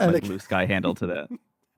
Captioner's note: laughs